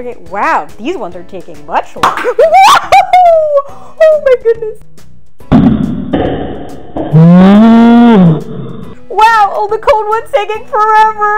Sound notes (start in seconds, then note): 1.6 canister pops; 2.4 screams